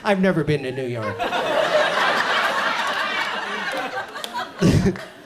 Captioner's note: audience laughs